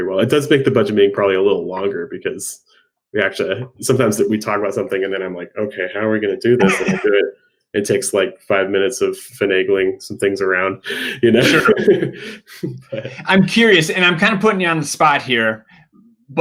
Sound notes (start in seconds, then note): 6.6 laughing; 11.0 laughing